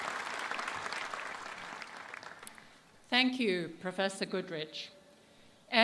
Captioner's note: applause